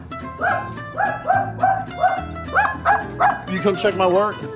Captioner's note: dog barking